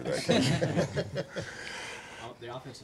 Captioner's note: chuckling